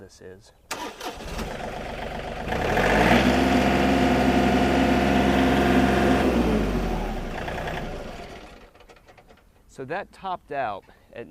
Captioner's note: engine starting